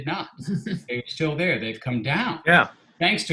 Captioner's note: chuckling